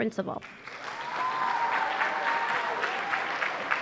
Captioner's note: applause